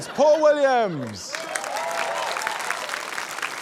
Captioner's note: cheering, applause